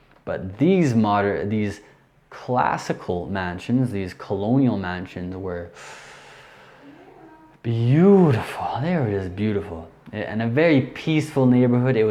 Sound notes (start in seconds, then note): 5.7 inhales loudly